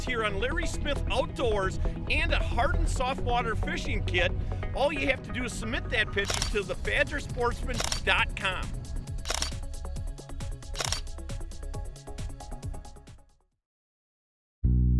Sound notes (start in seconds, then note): 9.1 camera clicks; 11.1 mellow electronic music; 14.7 relaxing reggae music